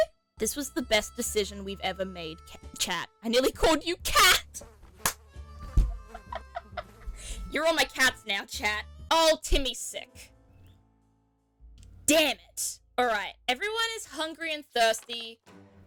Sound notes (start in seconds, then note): 5.0 claps; 5.9 laughs